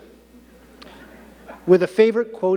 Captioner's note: audience laughing